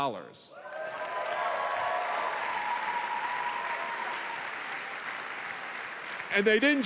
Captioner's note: cheering